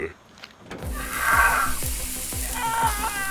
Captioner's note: screams